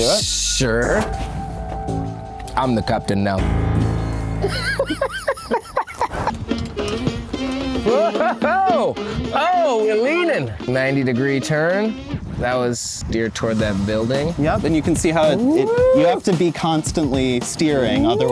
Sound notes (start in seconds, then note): 4.7 somber music; 7.1 laughter; 9.5 upbeat music